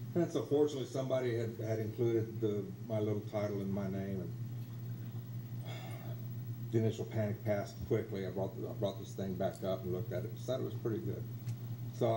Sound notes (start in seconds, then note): 5.6 sighs